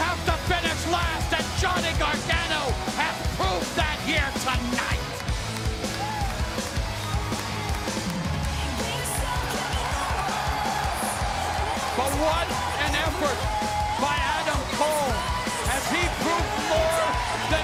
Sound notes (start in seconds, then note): 13.7 crowd cheering